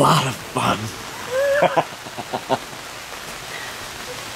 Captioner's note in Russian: Смех